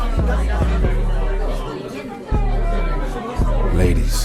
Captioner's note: patrons chattering